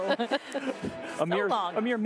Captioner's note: laughter